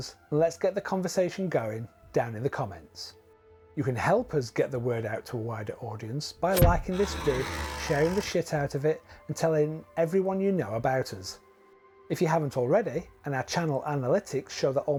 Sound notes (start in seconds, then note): 6.5 spit